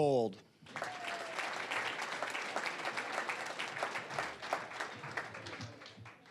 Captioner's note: applause